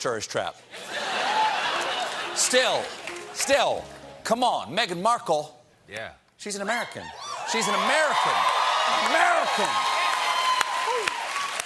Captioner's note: laughter